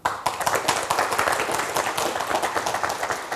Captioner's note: applause